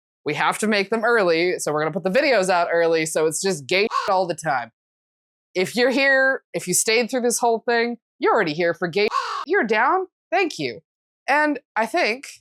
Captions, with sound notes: We have to make them early, so we're going to put the videos out early. So it's just gay [CAW] all the time. If you're here, if you stayed through this whole thing, you're already here for gay [CAW]. You're down. Thank you. And I think-